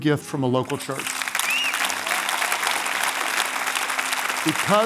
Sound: applause

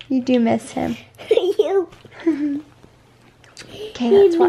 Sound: kiss

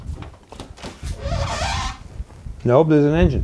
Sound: hood squeaking

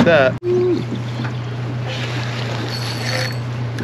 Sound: boat engine idling; reel cranking

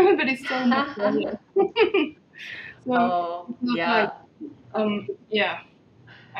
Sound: laughing

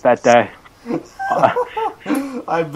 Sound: laughing

